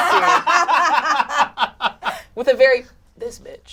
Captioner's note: all laugh